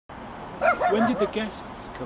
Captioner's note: dog barking